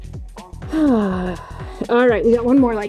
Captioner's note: exhales